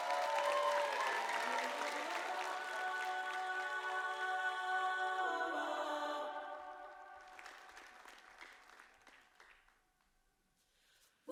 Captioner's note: applause